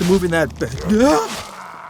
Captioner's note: shocked Sounds